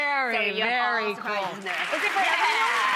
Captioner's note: audience applauds